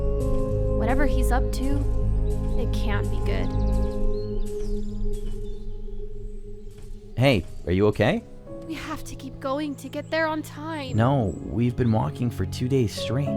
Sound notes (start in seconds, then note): 3.1 birds chirping; 3.1 solemn music